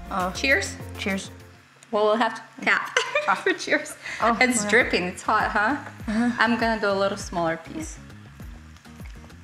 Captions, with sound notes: Cheers. - Cheers. - Well, we'll have to tap. For cheers. (laughing) Oh, it's dripping it's hot. I'm gonna go a little smaller piece.